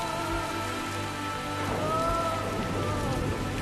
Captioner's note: thunder rumbles